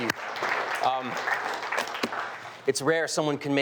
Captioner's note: audience clapping